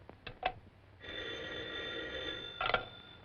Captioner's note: phone rings